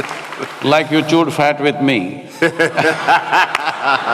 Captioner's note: laughter